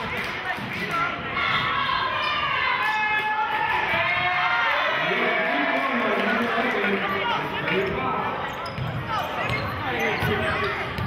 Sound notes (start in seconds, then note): 1.1 chanting; 4.4 cheering